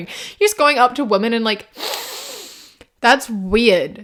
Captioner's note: sniffs